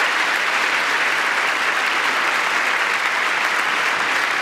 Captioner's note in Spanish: gritos